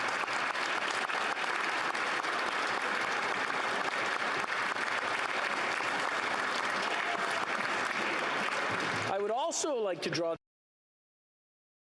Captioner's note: applause